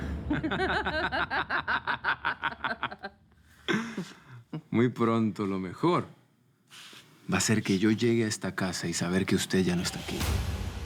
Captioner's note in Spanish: Risas